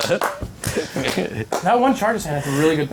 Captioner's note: all laughing